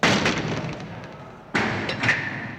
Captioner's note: door slams; lock clanks